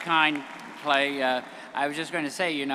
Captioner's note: audience applauding